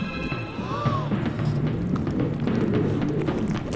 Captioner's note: all gasping